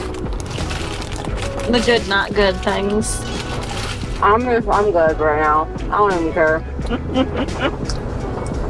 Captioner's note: laugh